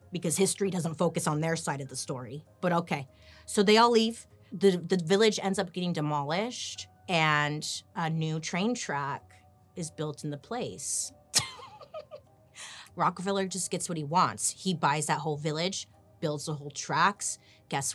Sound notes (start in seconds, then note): 11.4 laughing